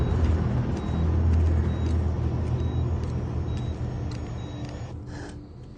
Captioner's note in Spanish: Sonido de la telemetría